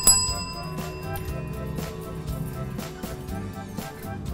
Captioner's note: dings bell